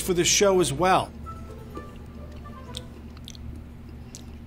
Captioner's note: chewing